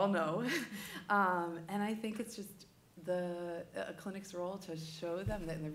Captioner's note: laughter